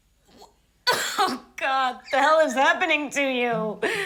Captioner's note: laughs